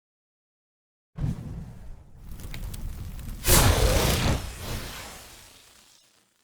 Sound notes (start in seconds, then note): 2.1 sparks; 3.5 explosion